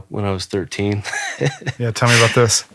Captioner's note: laughing